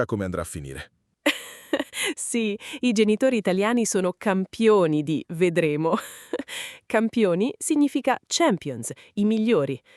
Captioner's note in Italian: risate